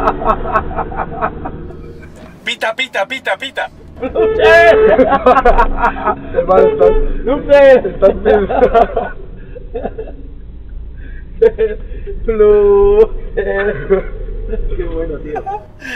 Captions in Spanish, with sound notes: Pita,pita,pita (claxon) PIIIII jajajaja (claxon de nuevo) PIIII estas zumbao jajaja jajajaja jeje.. flooooooxer jaja que bueno tio